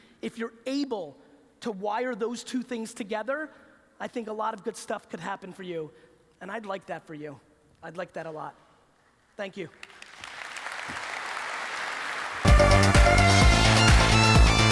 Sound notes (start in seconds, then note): 9.6 applause; 12.4 techno music